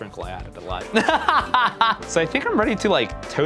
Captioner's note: laughter